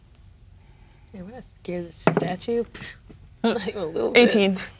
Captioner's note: dice rolling